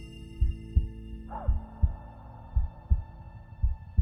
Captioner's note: cry